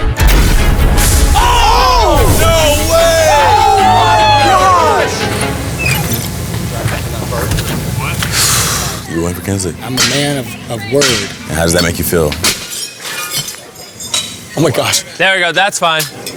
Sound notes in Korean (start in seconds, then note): 8.3 한숨